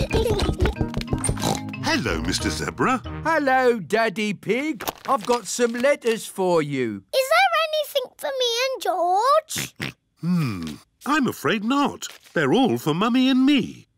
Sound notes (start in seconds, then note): 1.3 oinks; 9.6 oinks